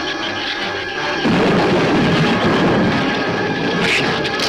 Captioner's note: thunder claps; shrew chatter